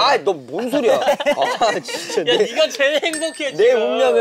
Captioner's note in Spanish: Jajaja